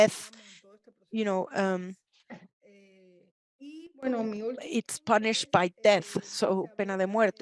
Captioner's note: speaks Spanish